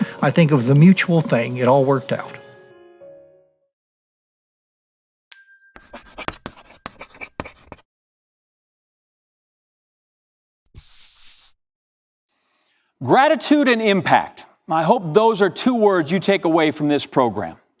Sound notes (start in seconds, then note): 5.3 bell dings